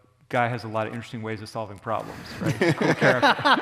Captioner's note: audience laughter